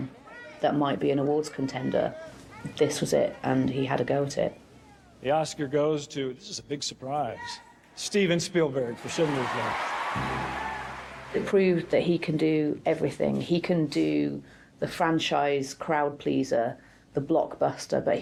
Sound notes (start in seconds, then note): 8.9 audience applauds